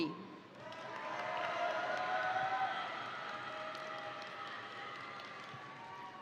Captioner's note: crowd applauding; crowd cheering